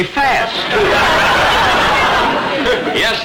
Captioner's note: audience laughter